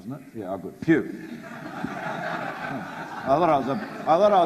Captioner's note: audience laughs